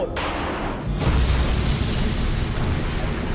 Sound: explosion

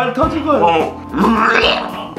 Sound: throwing up sounds

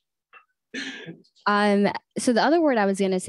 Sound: laughs

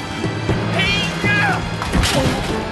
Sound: soldier yells

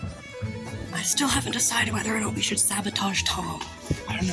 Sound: whispering

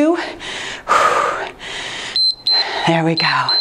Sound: exhales; timer beeps

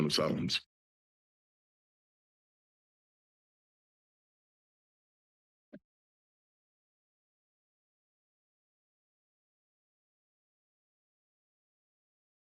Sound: silence

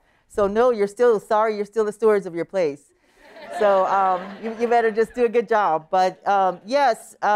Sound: laughter

